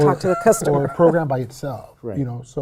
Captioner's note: laughs